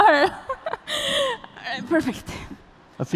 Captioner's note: laughter